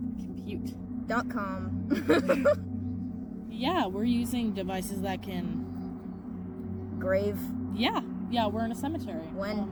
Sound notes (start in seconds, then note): 2.0 laughing